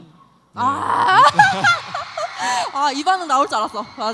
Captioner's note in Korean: 환호